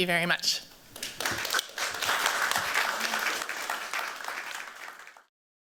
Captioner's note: applause